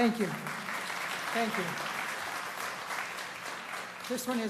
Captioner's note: applause